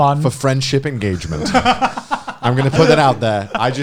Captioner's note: laughing